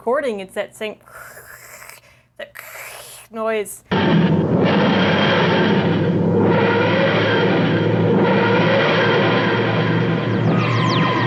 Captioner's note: imitates TARDIS noise; vwooorp vwoorp